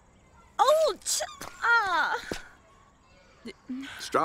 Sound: groans

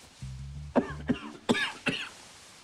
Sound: coughing

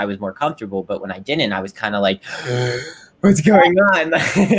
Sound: gasps deeply; laughs

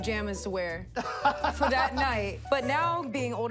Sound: laughing

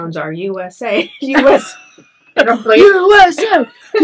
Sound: both chuckle

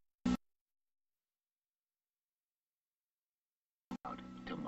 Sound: silence

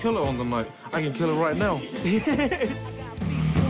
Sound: laughs

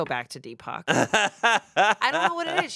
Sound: laughs

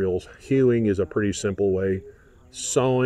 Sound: people chatting

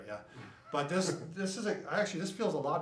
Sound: laughs

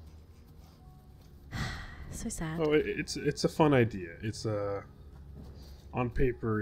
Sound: sighs

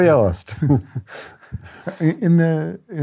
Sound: laughter

